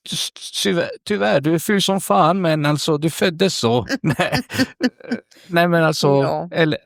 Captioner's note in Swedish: skratt